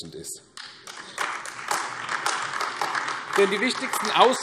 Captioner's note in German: Beifall AfD